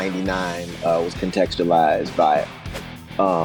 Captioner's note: whooshing sound